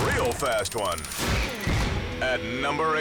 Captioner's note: countdown squeals